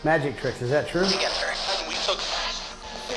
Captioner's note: spirit box voice